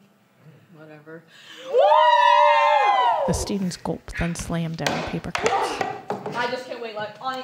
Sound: cheers

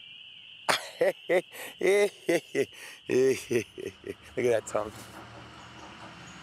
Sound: laughing

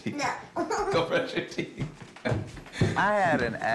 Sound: laughing

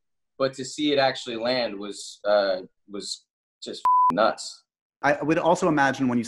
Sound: beep

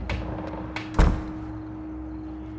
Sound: door creaking; door close

